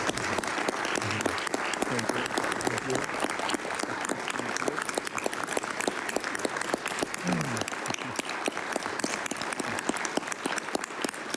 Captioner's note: applause